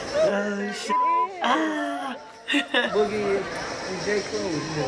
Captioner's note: chuckles